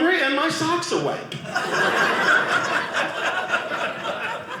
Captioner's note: audience laughing